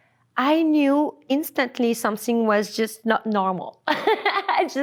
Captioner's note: laughs